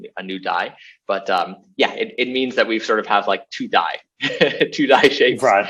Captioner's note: laughs